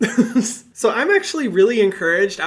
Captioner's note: giggling